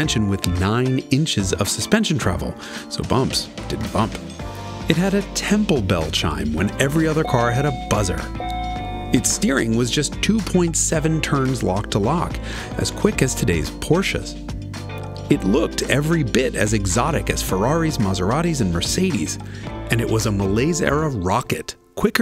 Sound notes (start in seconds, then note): 7.1 car chiming